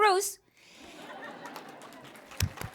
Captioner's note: laughter; applause